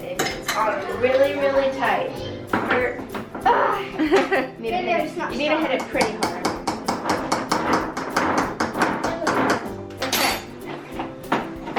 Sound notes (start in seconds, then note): 3.4 exasperated sighing; 6.7 spoon clanking